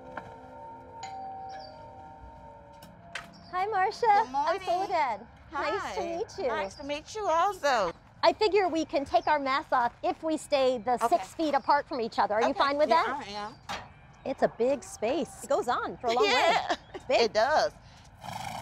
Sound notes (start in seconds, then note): 0.0 doorbell rings; 16.0 laughs; 18.2 horse snorts